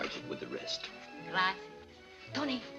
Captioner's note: speaking spanish